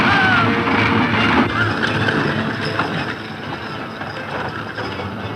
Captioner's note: loud yelling to urge horses forward